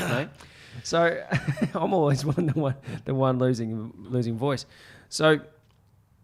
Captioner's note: laughs